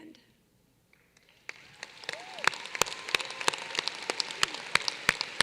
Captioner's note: applause